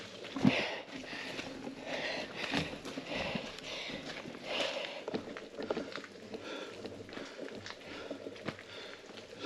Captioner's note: panting